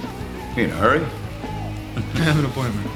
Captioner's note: chuckling